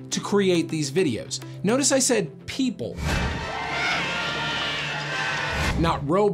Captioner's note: shock